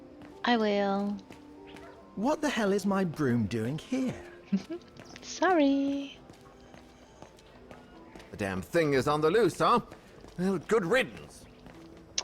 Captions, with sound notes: I will..! *laughs* Sooorrrry!